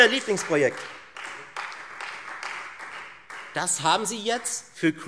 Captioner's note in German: Beifall Freie Demokraten